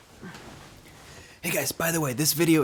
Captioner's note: sheets rustling